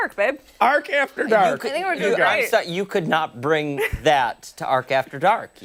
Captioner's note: laughter